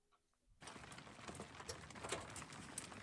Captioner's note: rain hitting the top of the awning